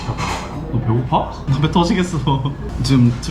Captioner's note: sobbing